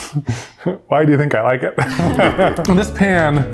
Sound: laughs

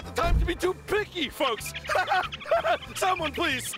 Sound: laughs deliriously

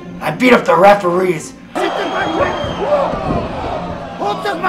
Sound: shouting

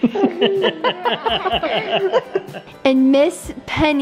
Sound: laughing

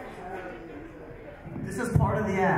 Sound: audience chatter

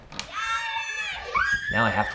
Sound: children babbling excitedly

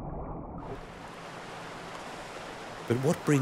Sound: waves splash

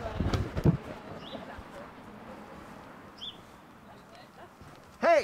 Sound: birdhouse crunches

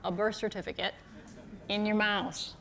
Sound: chuckles

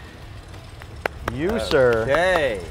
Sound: hands clapping

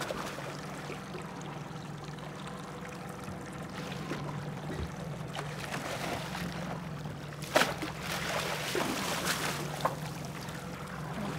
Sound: fish splashing

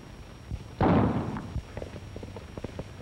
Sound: gunshots

